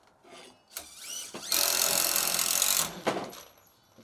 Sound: drill whirring

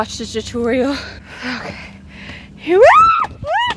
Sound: screams

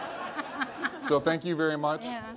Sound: laughs

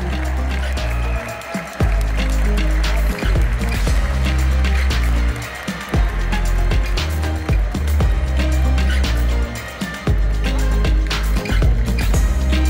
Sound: applause; ♫ Midtempo guitar music ♫

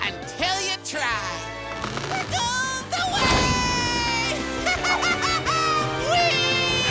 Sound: laughing

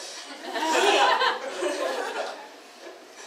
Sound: inhales deeply; audience laughs

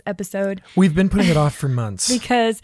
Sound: laughs

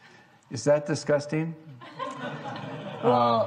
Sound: laughing

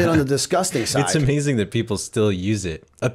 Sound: chuckle

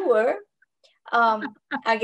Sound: laughter

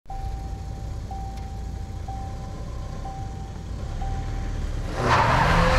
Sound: seatbelt alarm

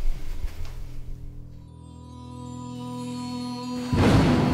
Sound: eerie music; thunder cracking

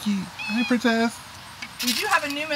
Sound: cat meowing

